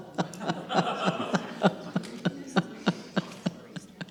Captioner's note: audience laughs